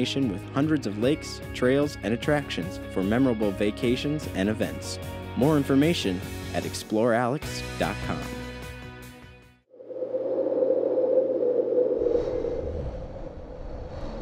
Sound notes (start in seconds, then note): 9.7 wind blowing